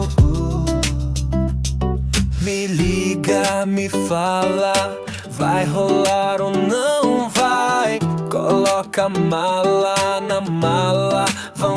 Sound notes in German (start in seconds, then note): 2.6 Fremdsprache, vermutlich Portugiesisch